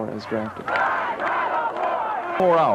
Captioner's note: demonstration Chants